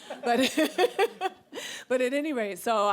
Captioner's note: laughs